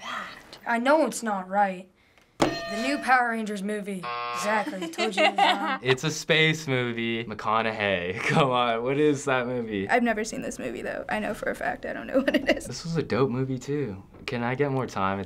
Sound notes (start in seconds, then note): 0.0 staticky voice; 4.0 buzzer